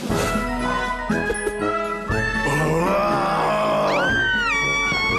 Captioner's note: both growling